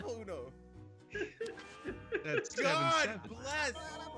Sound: laugh

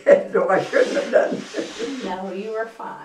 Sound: laughs

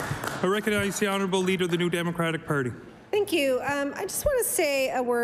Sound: some Applause

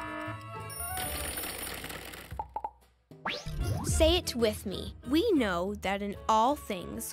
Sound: timer dinging; timer ringing; words clicking

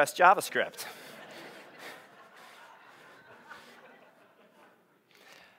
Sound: audience laughing

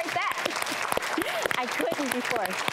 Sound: audience claps

